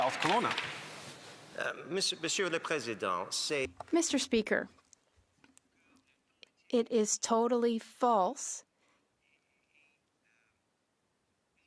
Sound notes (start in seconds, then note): 9.0 speaking French